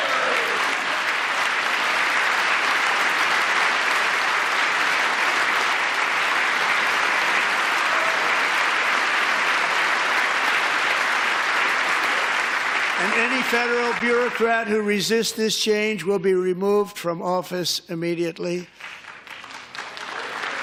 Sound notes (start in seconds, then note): 4.2 applause